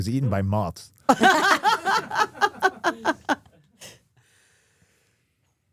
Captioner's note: laughing